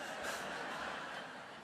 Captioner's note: laughter